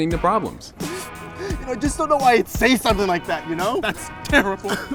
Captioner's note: crying